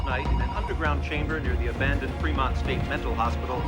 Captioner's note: telephone ringing